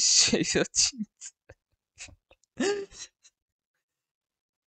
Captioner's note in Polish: śmiech